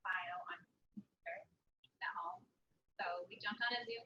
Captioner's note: audio drops